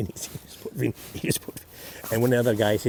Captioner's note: chuckles